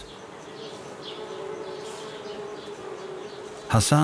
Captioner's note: bees buzzing